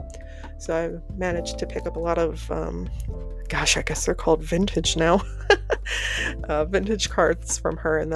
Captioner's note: pained laughter